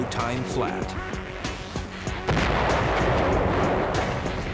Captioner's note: explosions